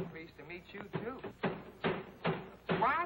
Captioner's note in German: banging